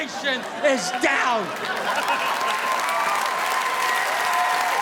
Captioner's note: audience applauding